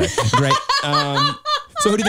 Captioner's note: chuckles